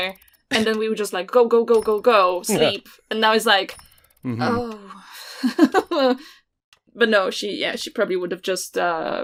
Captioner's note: laughs